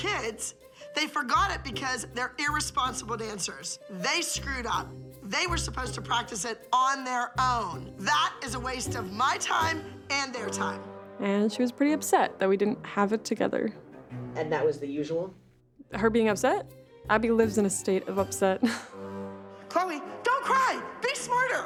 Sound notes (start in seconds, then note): 18.6 chuckles